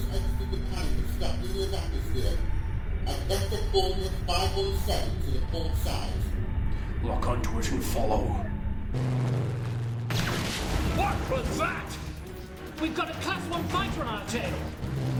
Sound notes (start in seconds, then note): 8.9 laser blasts; 10.3 explosion rumbles